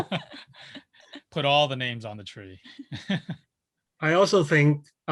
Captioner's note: laughing; laughs; laughs